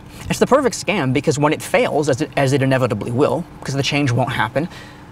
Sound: none

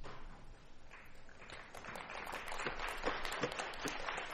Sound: applause

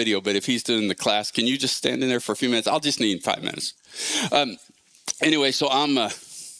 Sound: none

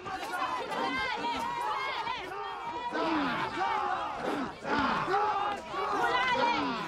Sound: indistinct cheering

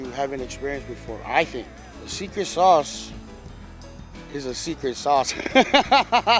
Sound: laughter

